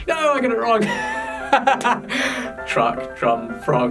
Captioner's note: laughs